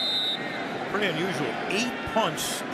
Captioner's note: whistle